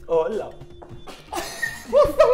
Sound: laughing

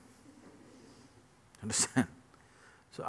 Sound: laughs

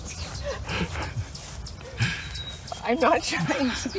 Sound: laughing

